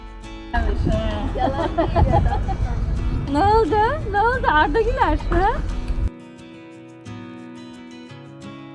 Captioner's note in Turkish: kahkaha